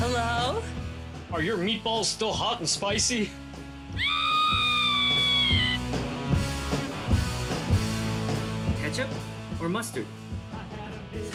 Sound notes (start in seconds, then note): 3.9 screaming